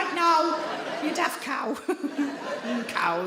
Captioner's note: audience laughing